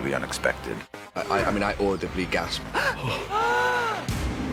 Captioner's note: gasps